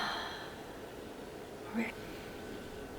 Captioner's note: sigh